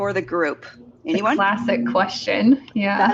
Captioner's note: giggles